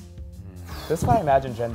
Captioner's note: exhales